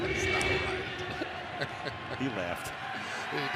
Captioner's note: laughs